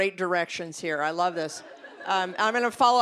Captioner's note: audience laughing